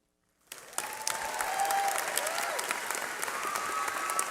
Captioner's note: cheering